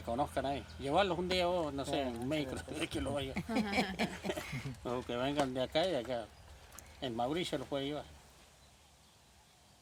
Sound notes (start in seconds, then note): 2.4 laughs